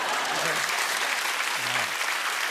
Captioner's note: laughter and applause